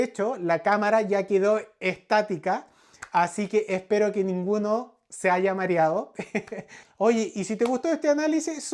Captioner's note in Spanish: risas